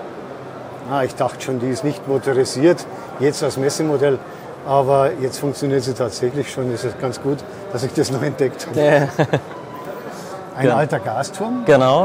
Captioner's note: both laugh